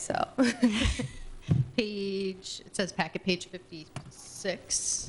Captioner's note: laughs